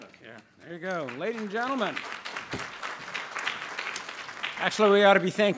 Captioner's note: audience applauds